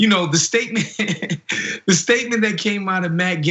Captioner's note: laugh